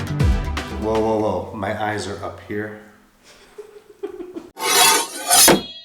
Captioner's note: laughing